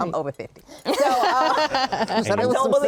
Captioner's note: laughing